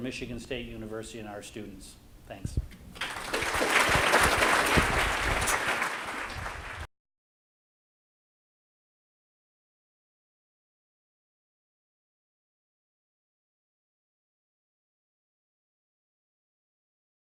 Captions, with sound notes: for Michigan State University and our students. Thanks. (applause)